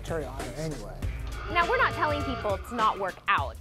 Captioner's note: alarm wails